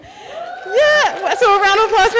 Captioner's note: audience cheering